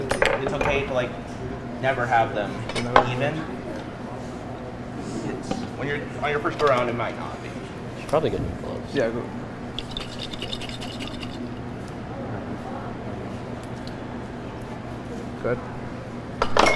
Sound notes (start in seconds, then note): 9.6 liquid swirling